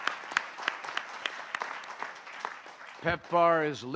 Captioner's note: applause